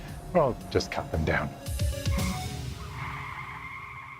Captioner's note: tyres Screeching